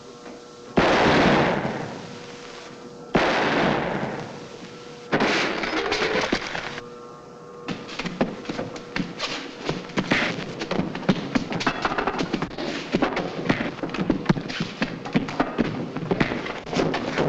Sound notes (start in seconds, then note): 0.0 gun fires; 0.2 machine whirs; 1.0 gun firing; 5.2 Donelli crashes; 10.3 punches landing